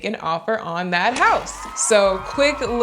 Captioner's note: cheering